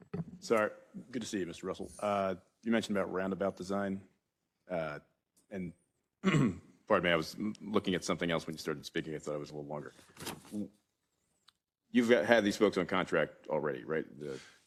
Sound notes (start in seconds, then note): 6.2 cough